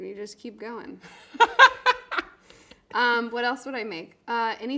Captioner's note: laughing